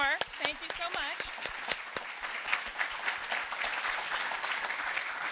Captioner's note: audience applauding